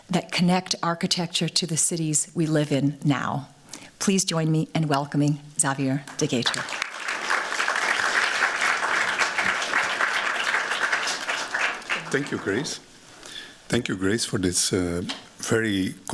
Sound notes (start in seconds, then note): 6.0 applause